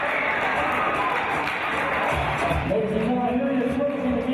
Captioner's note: applause